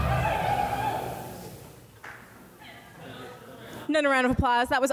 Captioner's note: audience members cheer